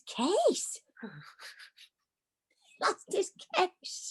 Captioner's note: laughs